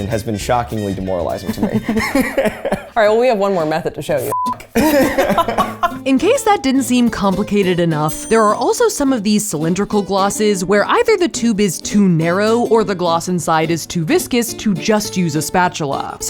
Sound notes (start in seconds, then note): 1.4 laughs; 4.7 both laugh